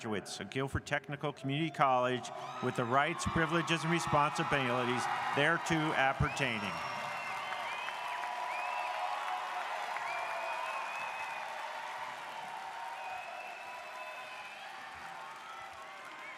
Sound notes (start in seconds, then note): 6.9 audience cheers